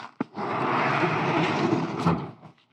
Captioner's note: truck bed cover sliding open